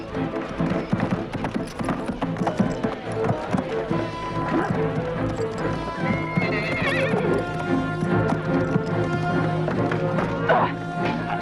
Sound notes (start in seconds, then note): 5.2 horse neighs